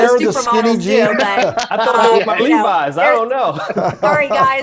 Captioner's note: laughs